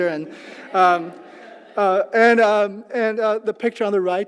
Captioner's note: laugh